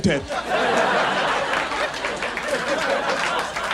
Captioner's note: audience laughs